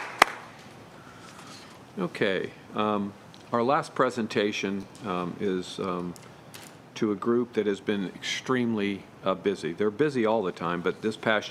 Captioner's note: applause